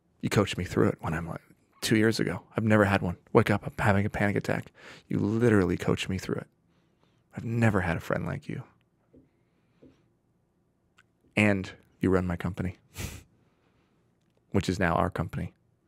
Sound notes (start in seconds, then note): 12.9 chuckling